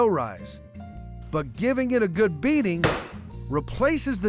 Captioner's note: pounding sound